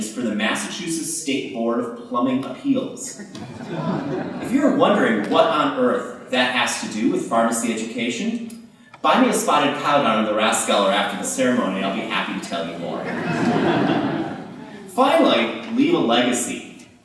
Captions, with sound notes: for the Massachusetts State Board of Plumbing Appeals. [Laughter] If you are wondering what on earth that has to do with pharmacy education, buy me a Spotted Cow down at Der Rathskeller after the ceremony I'll be happy to tell you more. [Laughter] Finally, leave a legacy.